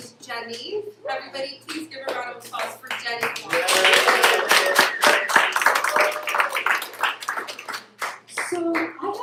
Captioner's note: applause